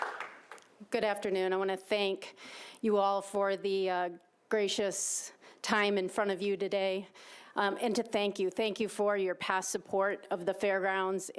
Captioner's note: applause